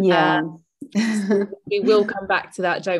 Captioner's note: chuckles